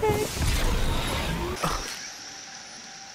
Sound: scoffs

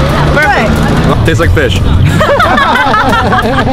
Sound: all laugh

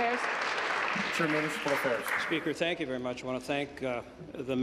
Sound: applause

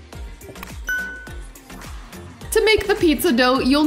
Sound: bell chimes

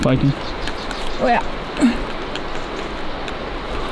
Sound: grunts

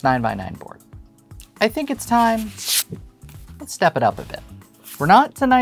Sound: paper rustling

